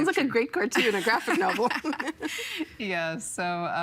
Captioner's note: both laughing